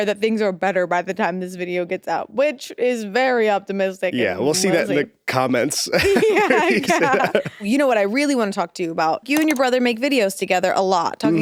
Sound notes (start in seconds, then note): 5.9 both laughing